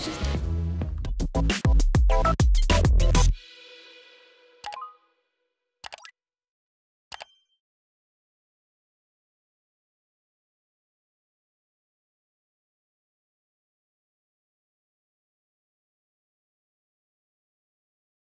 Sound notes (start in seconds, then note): 0.1 lively electronic music continues; 4.6 like button beeps; 5.8 subscribe button clicks; 7.2 bell dings